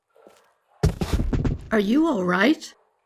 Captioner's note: falling sound